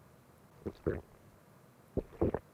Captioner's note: record scratches; swallows uncomfortably